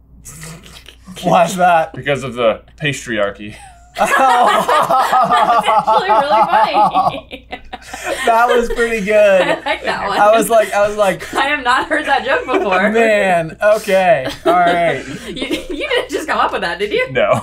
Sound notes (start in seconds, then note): 0.2 snicker; 3.5 laughter